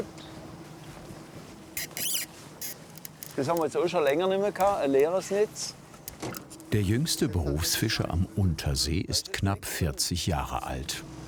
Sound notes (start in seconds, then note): 1.7 short whirring sound